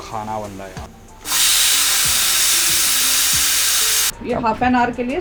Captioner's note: whistle blows